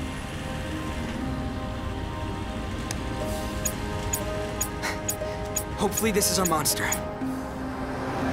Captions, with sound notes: [TICKING] Hopefully this is our monster.